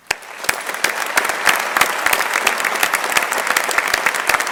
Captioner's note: crowd applauding